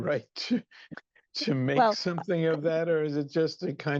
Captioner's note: laughs